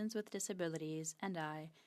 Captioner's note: speaking French